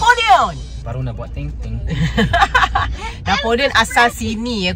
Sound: laugh

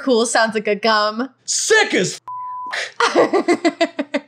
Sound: beep; laughing

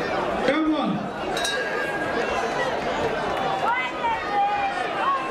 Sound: bell rings

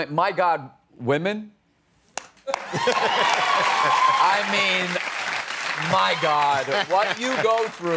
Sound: cheers and applause

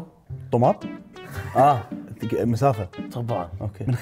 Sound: laughs

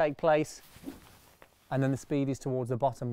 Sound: club whooshes

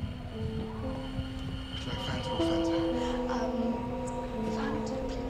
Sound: ian and becky chatter

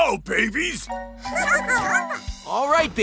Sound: laughing

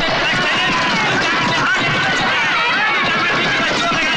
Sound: crowd Applauding

